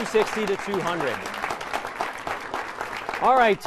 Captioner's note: applause